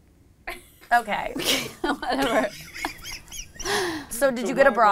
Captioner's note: all laugh